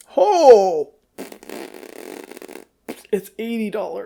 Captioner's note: blows raspberries